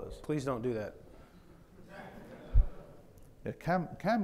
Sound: audience chuckling

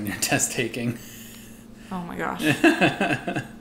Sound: laughter

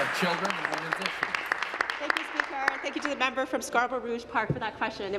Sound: applause

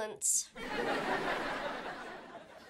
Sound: laughing

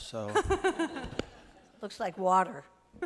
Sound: laughter

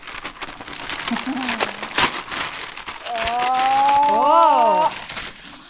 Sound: paper crumples; laughs

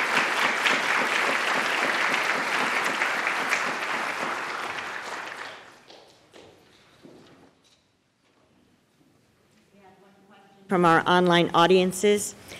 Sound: applause

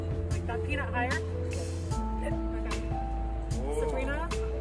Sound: chatter

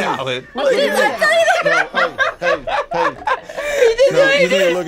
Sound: both laugh

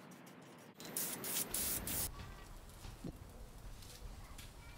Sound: spray paint spraying

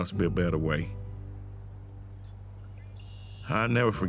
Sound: insects chirping

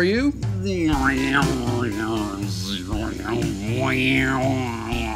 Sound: Will making growling sounds

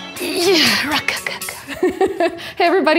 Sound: groans; laughs

